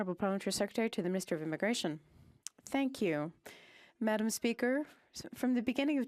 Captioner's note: speaking French